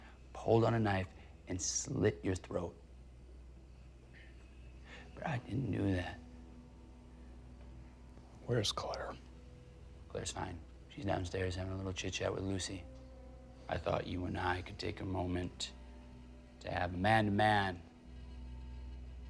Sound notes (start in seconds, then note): 3.3 tense music; 4.1 crickets chirping